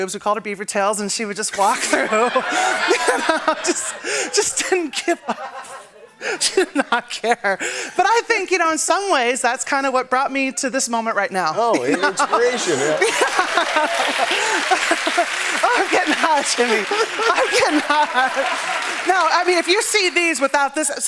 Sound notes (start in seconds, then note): 1.6 laughter; 13.2 cheering and applause; 18.3 laughter